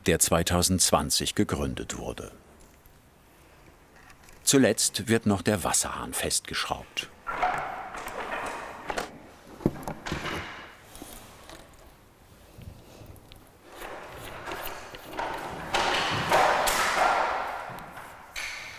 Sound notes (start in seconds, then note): 15.6 clattering in the background